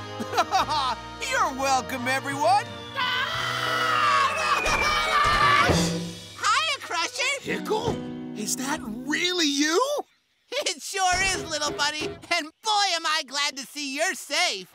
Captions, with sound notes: Aww, you're welcome everyone. [screaming] -Hiya Crusher! -Pickle? Is that really you? It sure is little buddy and boy am I glad to see you're safe.